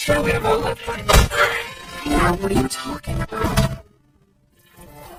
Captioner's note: gagging